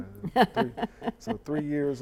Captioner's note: giggles